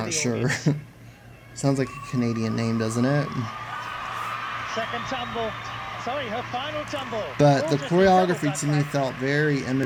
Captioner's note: applause